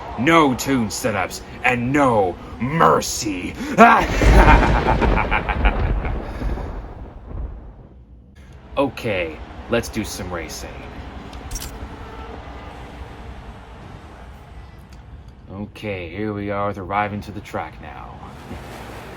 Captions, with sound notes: NO tune setups! And NO MERCEY!! *EVIL LAUGHTER* Okay! Let's do some racing! Okay here we are with arriving to the track now...